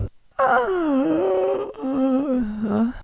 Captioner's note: yawning